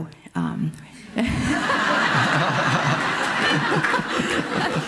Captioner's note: audience laughing